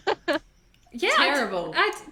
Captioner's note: laughs